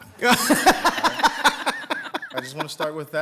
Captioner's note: people laughing